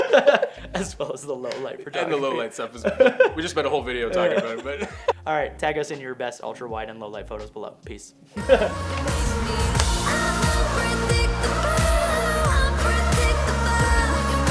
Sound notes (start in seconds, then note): 0.0 laughs; 2.7 laughs; 8.4 chuckles